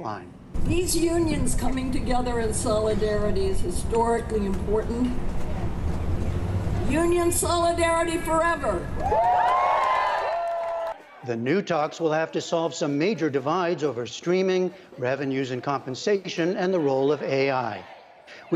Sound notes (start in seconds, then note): 8.9 cheering and applause